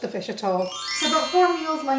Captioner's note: sparkly transition sound effect